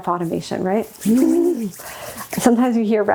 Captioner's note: excited humming